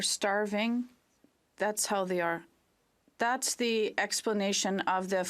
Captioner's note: speaking French